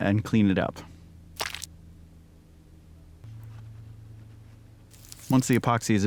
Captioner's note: Squish